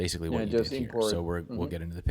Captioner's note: chattering